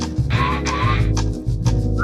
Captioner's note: television static